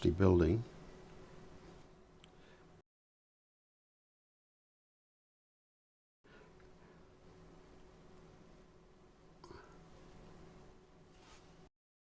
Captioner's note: silence